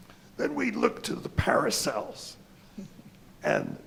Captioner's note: chuckle